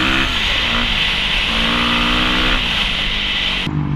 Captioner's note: engine revving